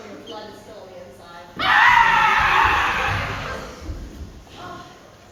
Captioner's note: loud scream